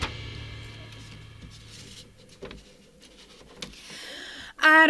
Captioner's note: papers rustling